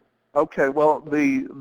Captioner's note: voiceover